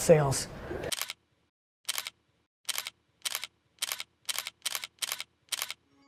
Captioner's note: photo shutter snapping